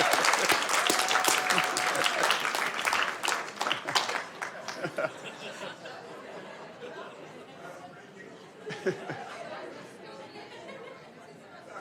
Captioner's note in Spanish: aplausos